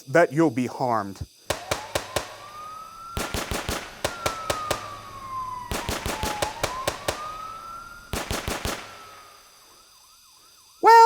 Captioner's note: gun shots and sirens